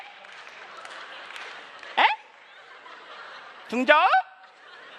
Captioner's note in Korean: 웃음